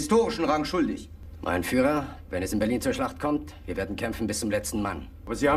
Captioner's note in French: parlant dans un anglais simple